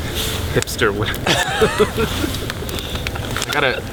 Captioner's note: all laugh